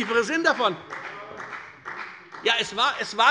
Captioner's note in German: Beifall bei der FDP